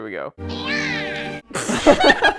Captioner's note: alien yelling; laughter